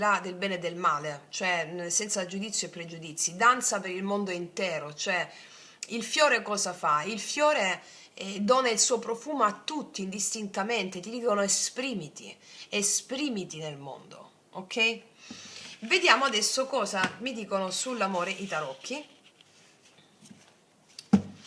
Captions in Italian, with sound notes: del bene e del male, cioè senza giudizio e pregiudizi, danza per il mondo intero, cioè il fiore cosa fa? Il fiore e dona il suo profumo a tutti, indistintamente. Ti dicono esprimiti, esprimiti nel mondo. Ok? [sbuffare] Vediamo adesso cosa mi dicono sull'amore i tarocchi.